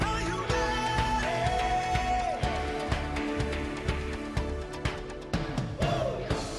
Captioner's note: applause